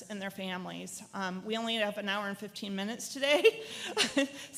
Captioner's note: laughs